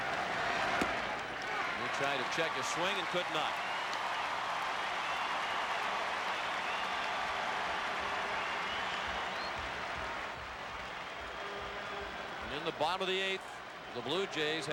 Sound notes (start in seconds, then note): 1.7 applause